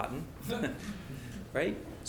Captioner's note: laugh